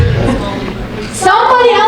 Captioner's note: audience murmuring